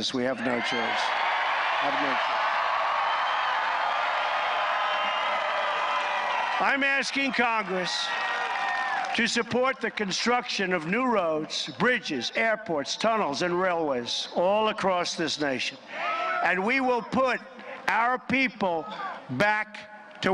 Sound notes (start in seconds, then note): 7.4 applause